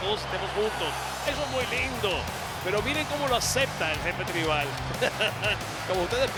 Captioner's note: laugh